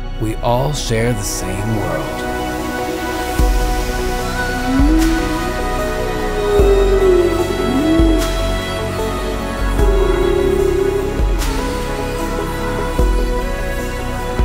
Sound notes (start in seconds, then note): 3.6 epic beautiful music; 6.6 whale sounds; 11.2 epic beautiful music